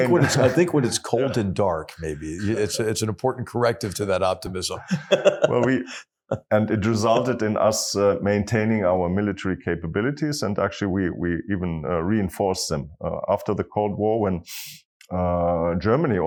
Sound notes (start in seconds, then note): 4.7 laugh